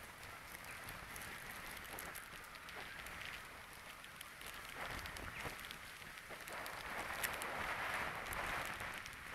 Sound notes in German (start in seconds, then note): 3.9 Knistern